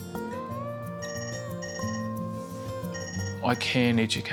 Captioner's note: phone rings